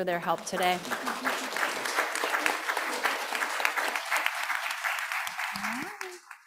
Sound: panel and audience clapping

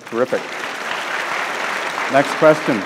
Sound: audience claps

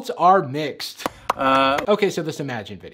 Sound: Jimmy clapping

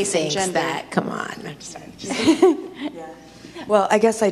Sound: laughs

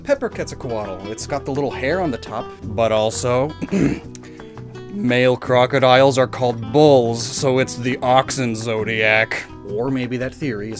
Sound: ehem

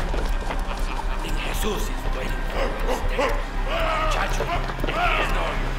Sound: dramatic music intensifying; more threatening, barking

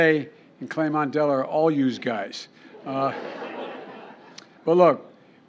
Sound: laughter

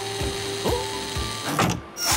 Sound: whirring; clank

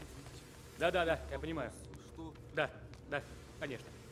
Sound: conversation on the phone

